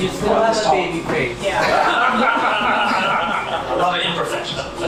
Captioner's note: laughter